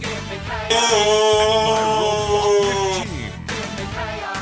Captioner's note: undescriptable scream